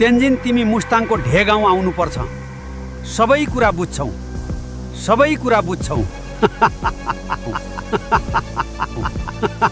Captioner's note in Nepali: हास्य